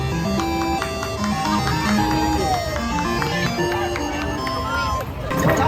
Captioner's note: people in the waiting line applauded